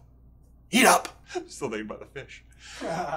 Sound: laughs

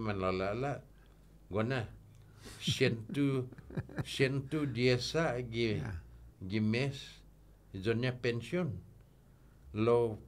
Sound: laughing

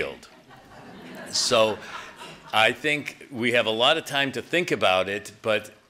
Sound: laughter

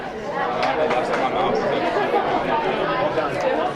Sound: group chattering

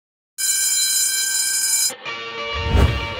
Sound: bell rings

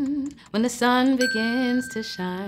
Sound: chiming ding

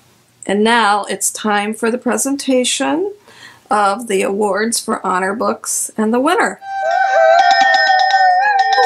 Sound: cheering

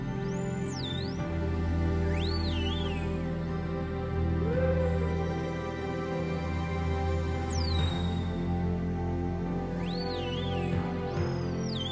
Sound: whales talking

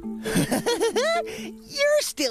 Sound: giggling

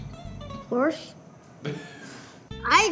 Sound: man laughs

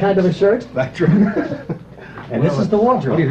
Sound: laughter

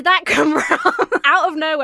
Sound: laughs

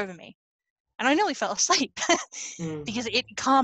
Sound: laughs

